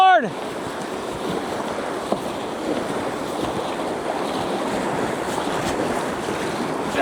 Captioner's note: water splashing